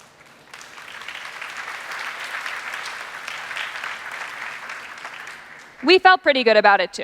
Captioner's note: applause